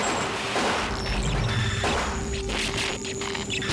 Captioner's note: computerized squealing